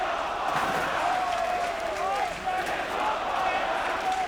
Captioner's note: audience cheering